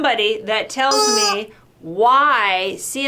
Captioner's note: toy squeaking